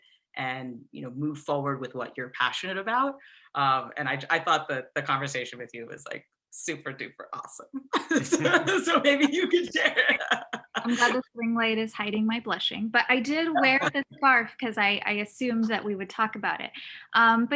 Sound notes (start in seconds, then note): 8.0 laughing